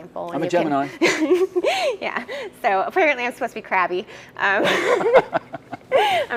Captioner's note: laugh